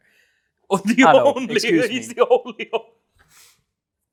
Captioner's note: continues laughing